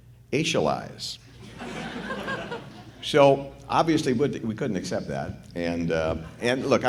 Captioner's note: laughter